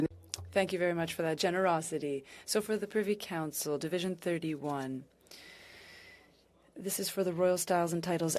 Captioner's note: speaking French